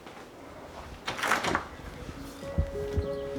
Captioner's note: feet thumping; door clicking; gentle music; birds chirping